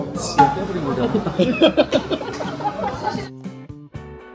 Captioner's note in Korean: 웃음